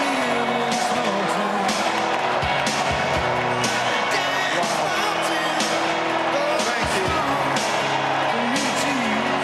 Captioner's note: cheers and applause